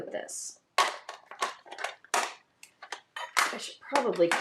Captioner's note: ink boxes clattering